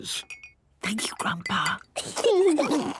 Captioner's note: Granny whispering; children giggling